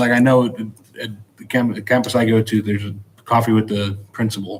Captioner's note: none